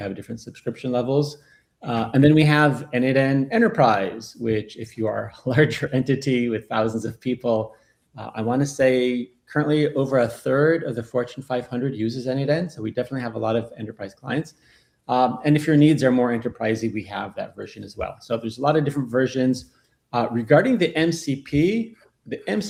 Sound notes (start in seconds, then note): 5.5 laughs